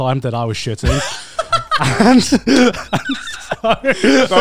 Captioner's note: laugh